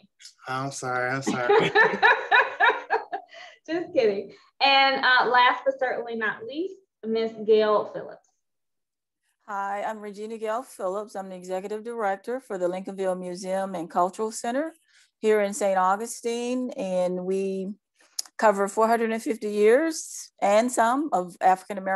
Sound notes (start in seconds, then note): 1.2 laughing